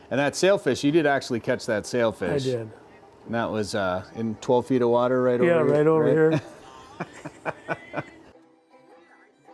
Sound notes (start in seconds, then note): 6.1 laughs